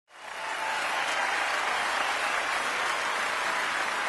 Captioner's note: audience cheering; audience clapping